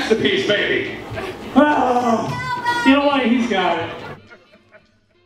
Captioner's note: sigh